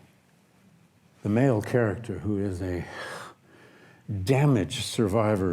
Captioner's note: sighs